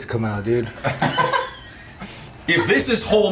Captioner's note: laughing